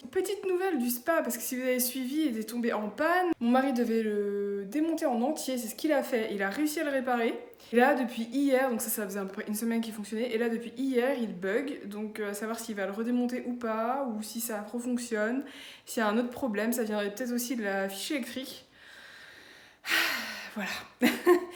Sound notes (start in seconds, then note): 19.9 sigh; 21.4 laughs